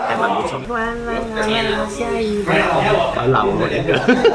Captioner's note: sound of rain